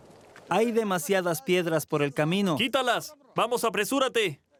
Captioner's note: Arabic spoken audio